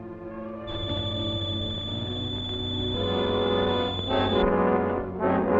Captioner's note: high-pitched keening